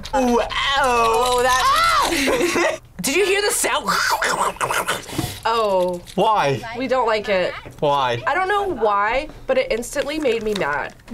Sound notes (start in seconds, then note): 1.7 screams; 3.9 gurgles